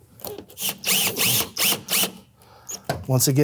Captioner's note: tool whirring